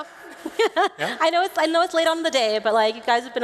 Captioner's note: laughing